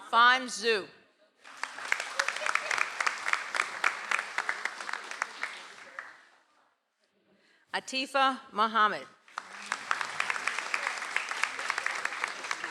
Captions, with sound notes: - Fon Zhou. (audience applauds) - Atifa Muhammad. (audience applauds)